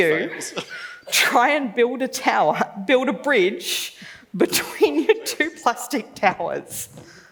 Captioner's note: laughs; laughs